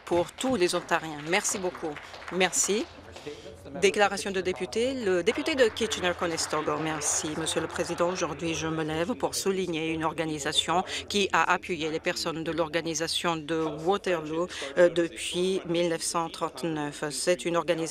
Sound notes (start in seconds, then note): 4.9 some Applause